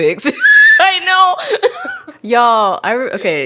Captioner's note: laughs